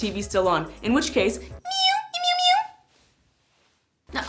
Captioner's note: meowing